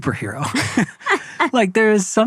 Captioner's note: laughing